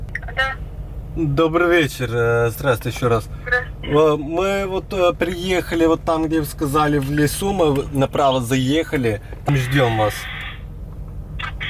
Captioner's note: conversations in Russian